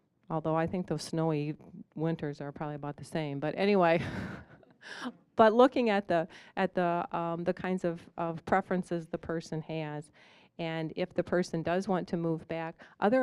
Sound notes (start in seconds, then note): 4.4 chuckling